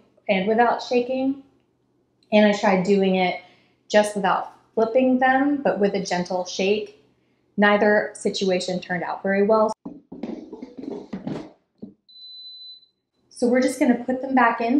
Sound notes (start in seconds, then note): 12.1 machine beeps